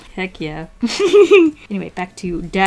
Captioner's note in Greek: Γέλια